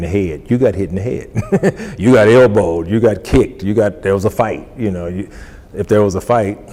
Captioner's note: laughs